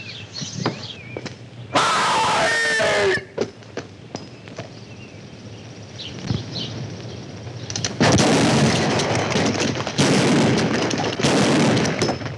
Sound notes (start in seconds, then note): 1.7 screams loudly; 7.9 gun fires repeatedly